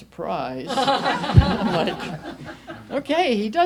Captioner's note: audience laughs